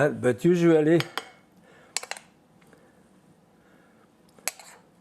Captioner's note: spoon clinking